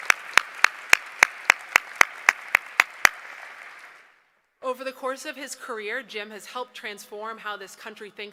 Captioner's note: applause